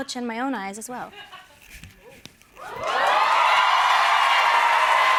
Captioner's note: cheers and applause